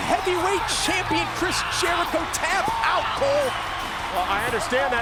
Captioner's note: audience cheering